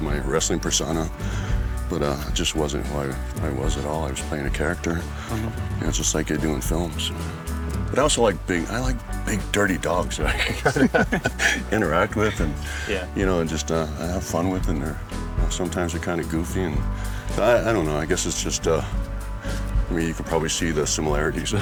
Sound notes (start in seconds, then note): 10.2 laughs